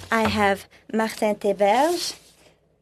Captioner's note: speaking French